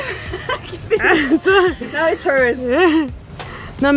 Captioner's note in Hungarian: nevetés